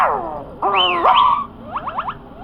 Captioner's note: Olie Whistles